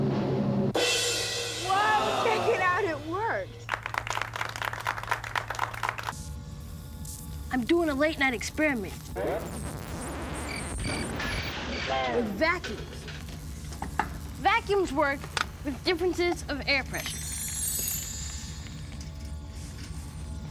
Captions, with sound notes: [ CYMBALS CRASH ] WHOA! CHECK IT OUT! IT WORKED. [ APPLAUSE ] I'M DOING A LATE-NIGHT EXPERIMENT... [ CRICKETS CHIRP ] WITH VACUUMS. VACUUMS WORK WITH DIFFERENCES OF AIR PRESSURE.